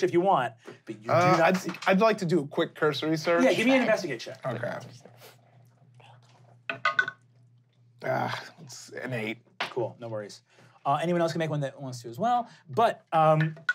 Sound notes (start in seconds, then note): 6.1 dice rolling; 8.0 sighs; 13.5 rolling dice